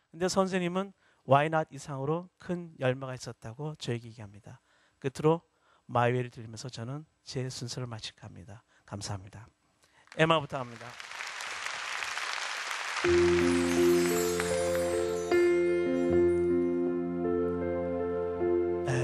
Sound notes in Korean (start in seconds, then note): 9.9 박수